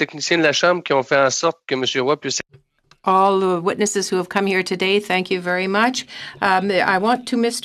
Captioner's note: speaking French